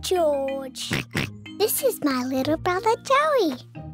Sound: oinks

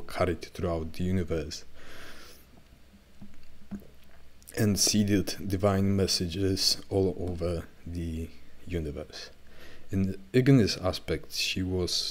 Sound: fire

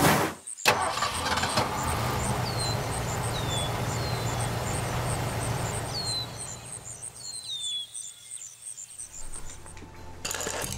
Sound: engine starting, birds chirping

